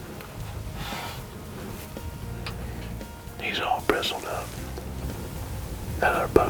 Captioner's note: whispering